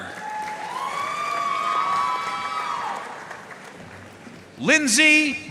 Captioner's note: audience cheering and applauding